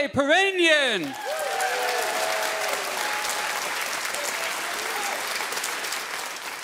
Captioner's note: audience cheering and clapping